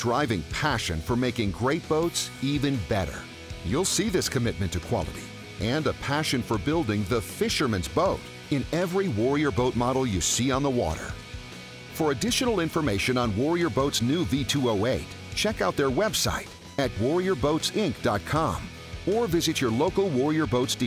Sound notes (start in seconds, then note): none